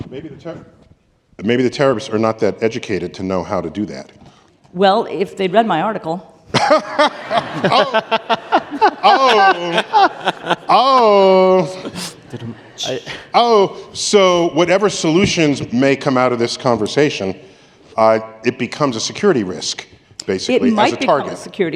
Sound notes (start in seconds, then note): 6.5 laughter